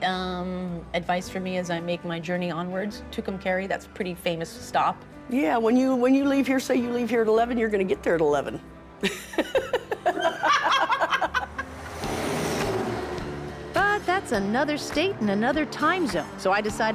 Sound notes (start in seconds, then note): 10.6 both laugh